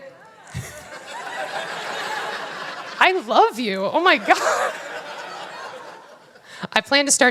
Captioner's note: laughter